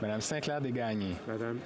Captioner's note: speaking French